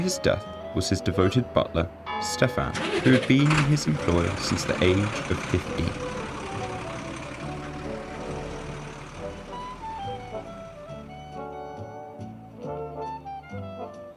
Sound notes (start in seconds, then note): 8.0 car drives away